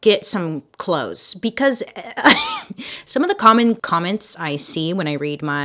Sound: laughs

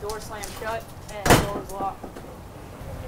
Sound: door thuds; door knocks

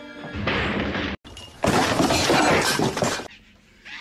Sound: drunk man falling down stairs meme sfx

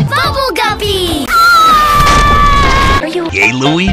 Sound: Скриймз анд эксплоўжинз

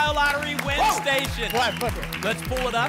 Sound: applause and cheering

